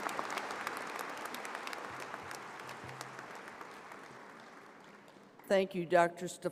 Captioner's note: applause